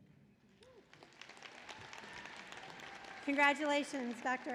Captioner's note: applause